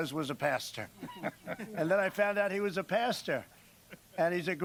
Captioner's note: laughter